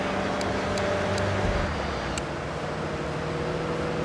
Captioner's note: engine roaring; tires screeching